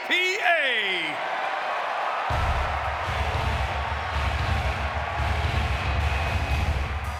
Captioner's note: audience cheering; upbeat music